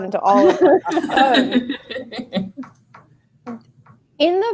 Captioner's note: laughing